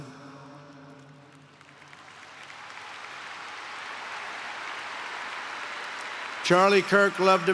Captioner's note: applause